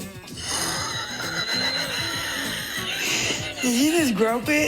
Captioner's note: both laughing